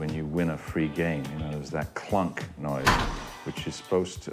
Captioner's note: loud clunk